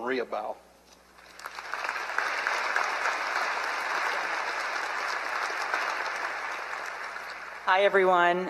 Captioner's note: applause